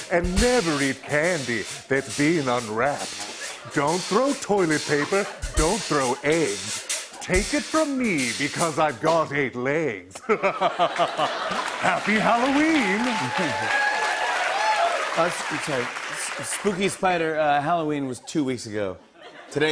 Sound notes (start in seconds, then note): 10.1 laughter; 13.0 cheers and applause